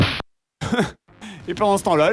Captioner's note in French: rire